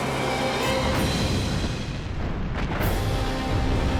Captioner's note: gunfire